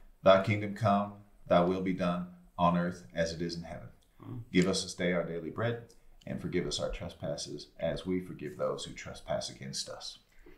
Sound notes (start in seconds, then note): none